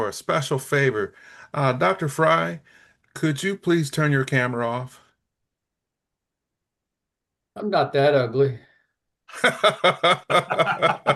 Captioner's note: laughing